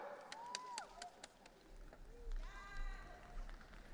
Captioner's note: audience cheering